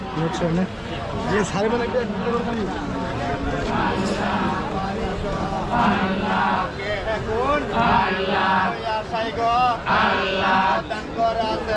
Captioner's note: chanting 'Allah' repeatedly